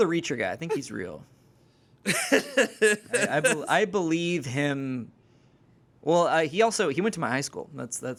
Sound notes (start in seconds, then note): 2.0 laughs